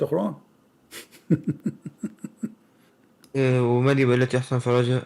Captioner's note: Ketawa